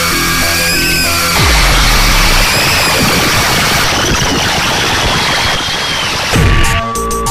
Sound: more screeching; intense screeching

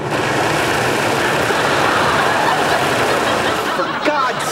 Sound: audience laughing

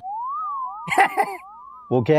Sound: chuckling

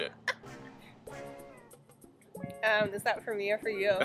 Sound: laughs

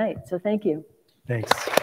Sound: applause

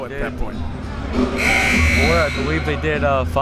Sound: buzzer

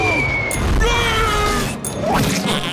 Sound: screaming

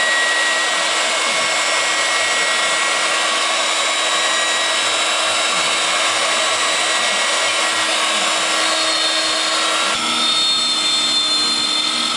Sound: loud machine sounds

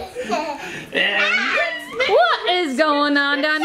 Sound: people laughing; people exclaiming

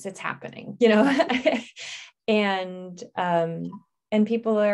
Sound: laughs

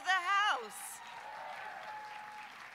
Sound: applause

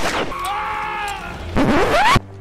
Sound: gunshot; jack screaming; record scratch

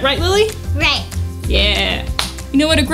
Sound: high-five clap

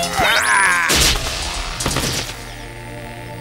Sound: growling

